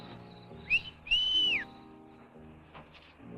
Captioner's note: Chase whistles; gentle music